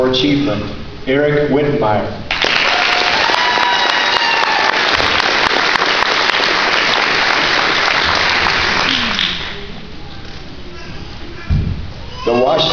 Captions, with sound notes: Eric Wittenmyer (applause)